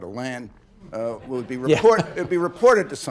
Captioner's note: laughter